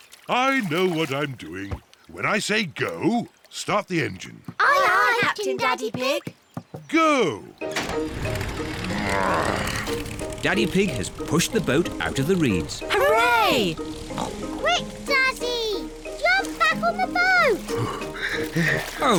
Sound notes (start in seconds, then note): 7.6 engine starts; 17.7 panting